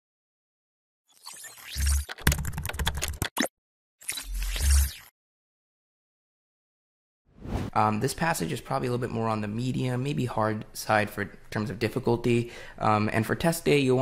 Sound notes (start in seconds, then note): 1.1 technological shrilling; 2.0 keyboard typing